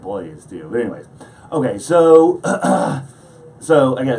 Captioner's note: coughing